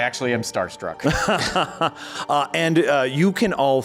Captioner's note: chuckles